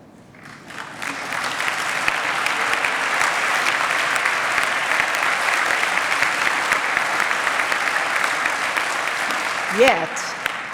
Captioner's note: applause